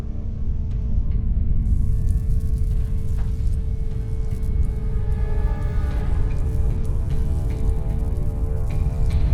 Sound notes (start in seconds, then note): 2.2 light buzzing